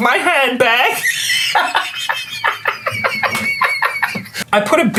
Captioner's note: belly laughs